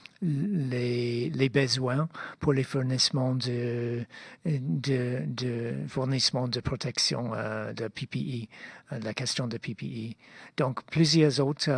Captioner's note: speaking French